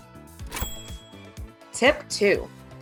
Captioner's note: graphics ching